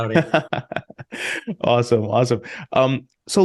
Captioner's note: laughing